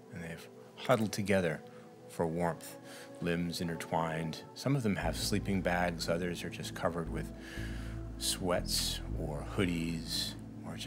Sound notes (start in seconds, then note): none